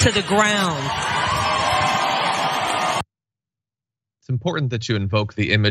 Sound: applause

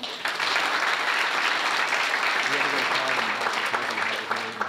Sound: audience applauding

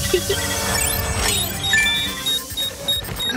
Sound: beeping

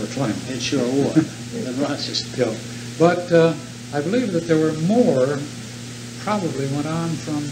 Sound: laughter

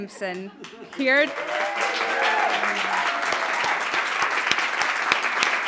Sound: audience applauding

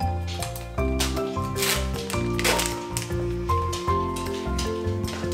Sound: paper rustling

